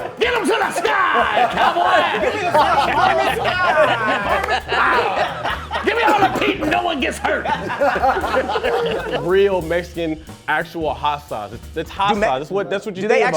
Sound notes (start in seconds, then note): 0.0 laughing; 4.8 laughing; 7.5 laughing